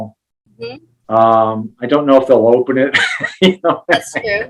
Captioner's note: giggling